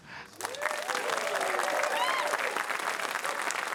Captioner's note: applause